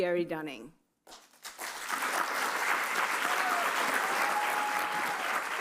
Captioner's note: audience applauds